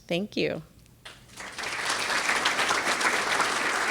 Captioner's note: audience applauds